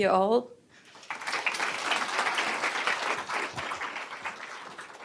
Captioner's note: applause